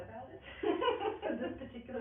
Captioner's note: laughing